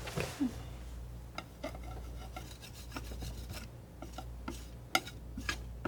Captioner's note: tapping